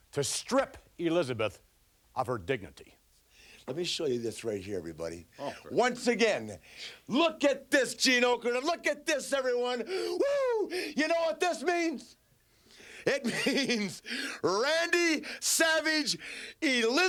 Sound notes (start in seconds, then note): 13.0 laughing